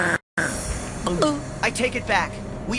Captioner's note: gulp